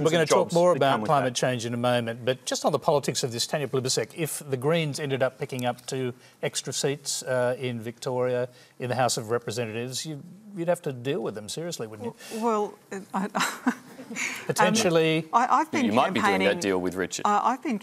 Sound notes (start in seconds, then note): 12.9 laughs